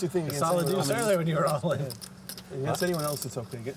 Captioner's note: chattering